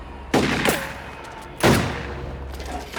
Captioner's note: firing